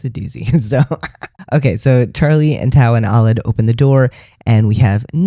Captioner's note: laughter